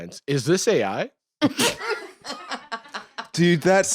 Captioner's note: laugh